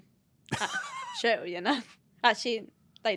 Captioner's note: laughs